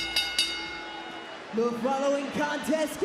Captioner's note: bell rings